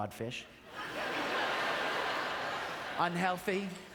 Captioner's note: audience laughter